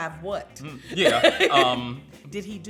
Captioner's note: laughs